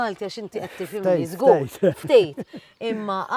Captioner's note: chuckles